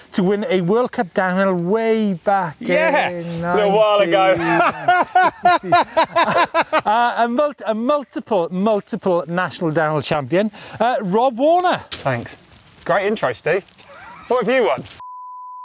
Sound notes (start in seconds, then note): 4.0 laughs; 15.0 beep